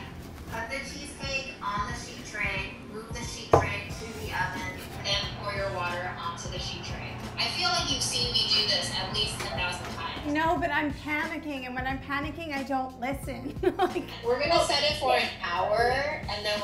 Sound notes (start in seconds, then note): 13.4 laughs